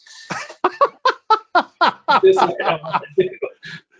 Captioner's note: laughs